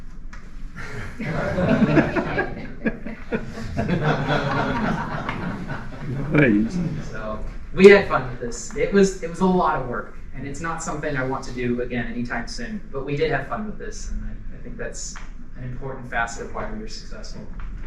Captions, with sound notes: [Laughter] So we had fun with this. It was, it was a lot of work and it's not something I want to do again anytime soon, but we did have fun with this and I think that's an important facet of why we're successful.